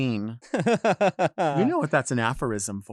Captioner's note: laughs